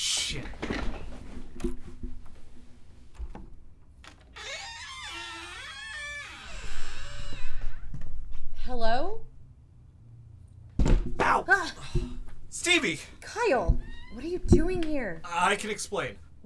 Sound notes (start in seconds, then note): 0.0 door unlocking; 6.1 door opens carefully